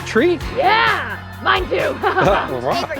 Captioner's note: laughs